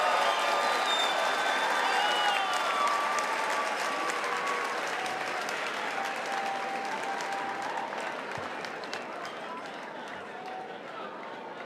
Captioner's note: cheering and applause